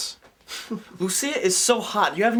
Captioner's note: Tom laughs